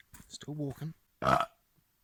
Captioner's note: burp!